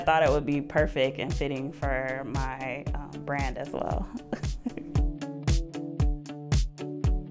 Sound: chuckles; bright music

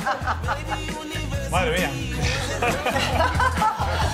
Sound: laugh

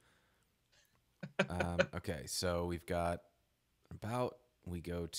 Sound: laughing

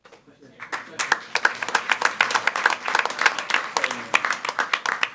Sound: attendees applauding

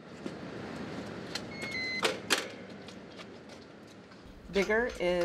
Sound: beeping

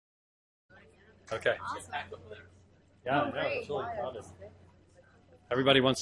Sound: voices chatting

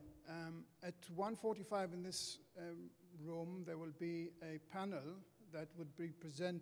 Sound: voiceover

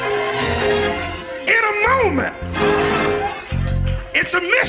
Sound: crowd exclaiming

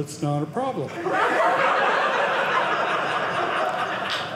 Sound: audience laughing

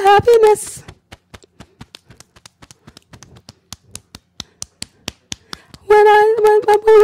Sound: beating Chest

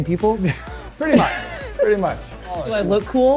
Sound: laughs

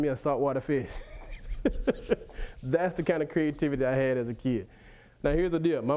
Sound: laughs

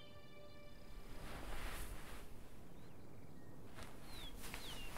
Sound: birdsong; rustling

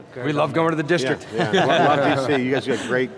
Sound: laughs loudly

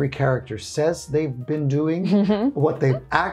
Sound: chuckling

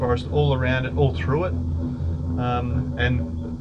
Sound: skyrail rumbles

